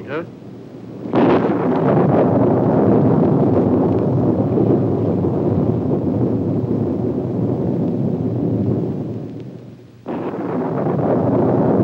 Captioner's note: storm sounds, thunder